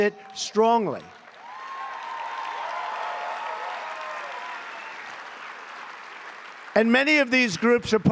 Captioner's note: applause